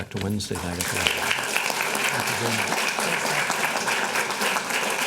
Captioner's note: applause